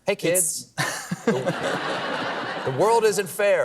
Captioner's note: laughter